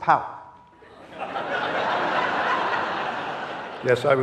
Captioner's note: audience laughing